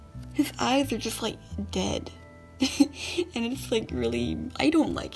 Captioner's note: laughs